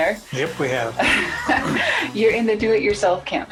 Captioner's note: laughing